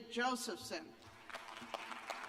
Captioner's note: applause